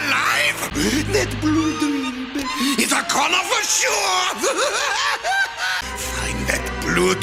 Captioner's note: maniacal laughter